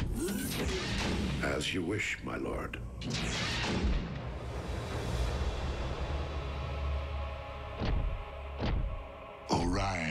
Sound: door opens

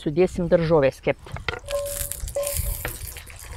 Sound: vegetables sizzling in Lithuanian

